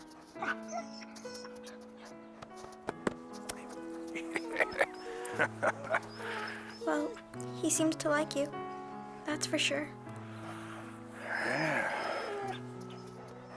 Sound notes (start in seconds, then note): 4.1 Hatcher laughing